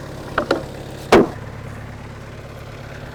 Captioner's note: wood thuds; telehandler engine rumbling continues